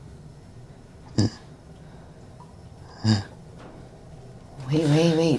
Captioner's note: Miles grunts